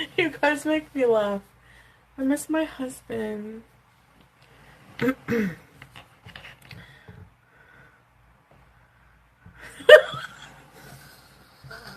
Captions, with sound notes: You guys make me laugh. I miss my husband. (clears throat) (laughs)